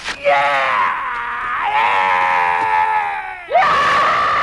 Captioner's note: man roaring; Hundra roars